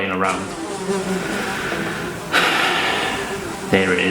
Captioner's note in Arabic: صوت طنين